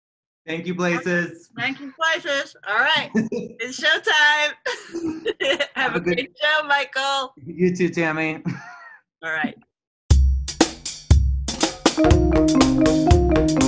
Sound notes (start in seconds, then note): 4.6 laughter